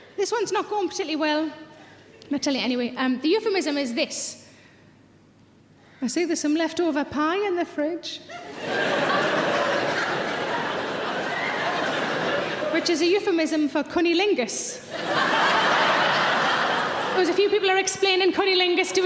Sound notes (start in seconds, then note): 8.4 audience laughing; 14.8 audience laughing